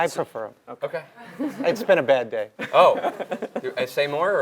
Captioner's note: laugh